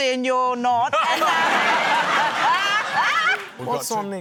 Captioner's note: laughter